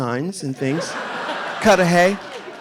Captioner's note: audience laughing